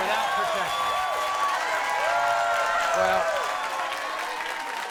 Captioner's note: audience cheers